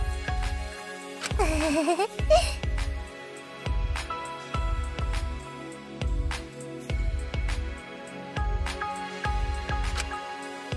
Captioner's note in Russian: зевок